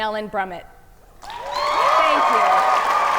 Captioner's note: audience cheer and applaud